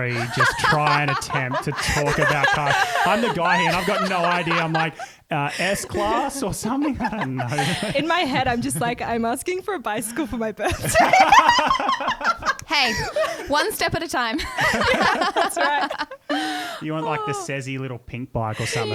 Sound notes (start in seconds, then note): 10.9 laughs; 14.6 laughing together